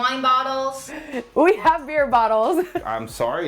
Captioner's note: laughs